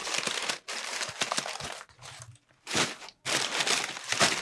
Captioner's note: paper crinkling